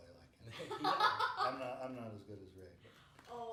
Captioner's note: laughing